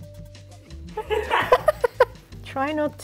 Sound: all laughing

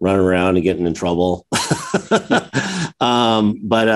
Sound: chuckles

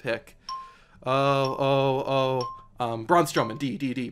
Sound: countdown timer ticks down

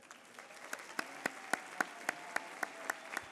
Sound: applause

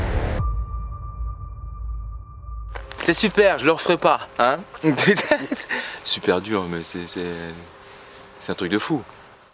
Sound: laugh

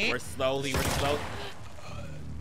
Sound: gun blasting; Abby gasping; Abby grunting; Tommy groaning

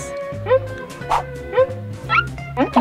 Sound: marker screeches

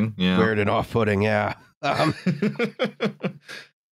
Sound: laughs

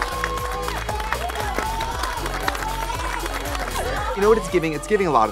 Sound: both clapping; contestants exclaiming; exciting music

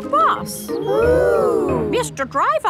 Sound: kids gasps in awe

